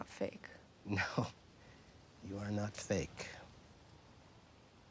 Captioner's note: chuckles